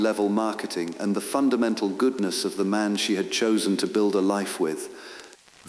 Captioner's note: exhale